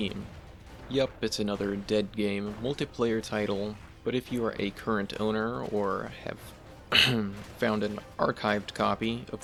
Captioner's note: uhem